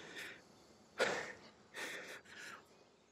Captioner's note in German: Schnaufen